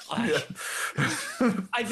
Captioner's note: laughing